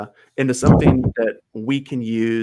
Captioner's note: chuckles